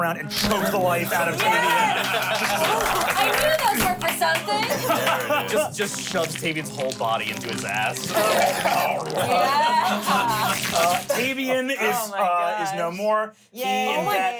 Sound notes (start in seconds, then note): 1.0 everyone cheers; 9.5 growls